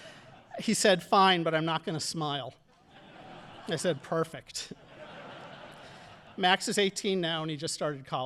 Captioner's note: audience laughing